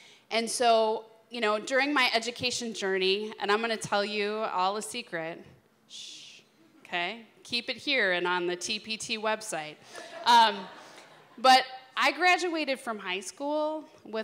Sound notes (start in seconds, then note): 9.9 laughter